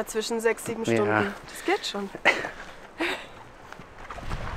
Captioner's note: laughter